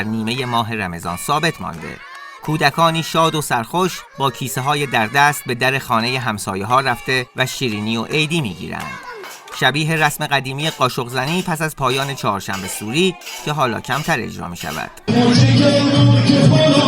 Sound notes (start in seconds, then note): 10.6 hitting a spoon on a bowl